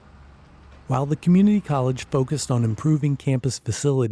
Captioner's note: voiceover